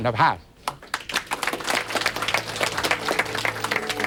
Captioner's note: applause